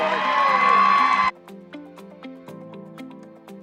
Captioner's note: cheering, applause